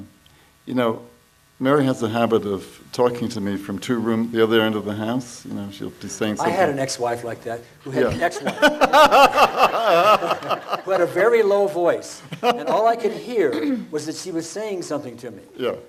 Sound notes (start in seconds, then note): 8.0 laughs